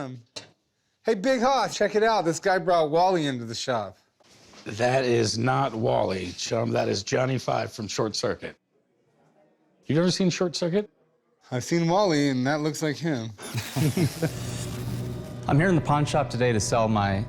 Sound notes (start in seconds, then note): 13.4 chuckles